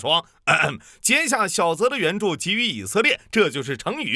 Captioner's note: ahem